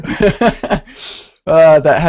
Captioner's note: laughter